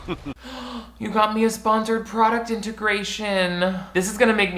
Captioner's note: gasps